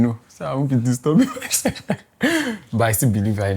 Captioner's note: laughs